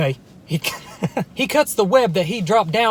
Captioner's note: laughs